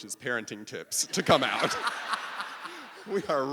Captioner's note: audience laughing